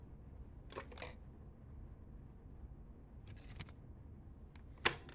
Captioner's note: CD player lid clunking